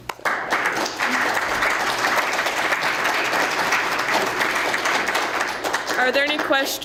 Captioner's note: applause